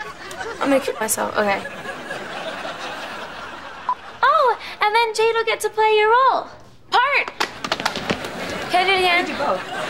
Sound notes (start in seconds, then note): 7.3 patting